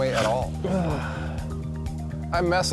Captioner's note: sighs